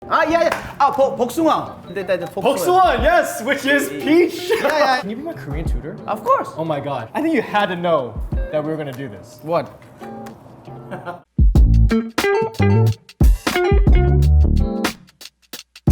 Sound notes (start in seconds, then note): 0.9 speaking Korean; 10.8 laughing; 11.4 upbeat Music